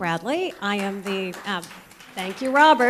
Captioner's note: applause